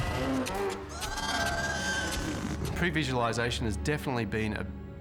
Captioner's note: roaring